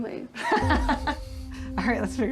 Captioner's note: laughing